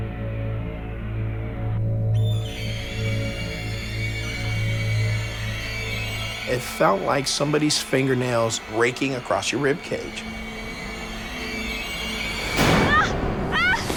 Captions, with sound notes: (shrill screeching) It felt like somebody's fingernails raking across your rib cage. (shrill screeching) (screaming)